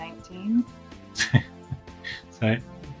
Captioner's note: laughter